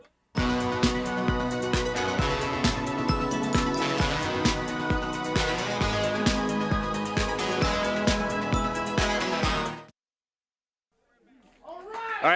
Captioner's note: crowd cheering